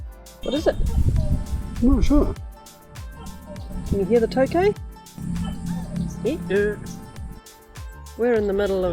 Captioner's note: gecko calling